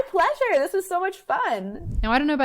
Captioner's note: air whooshes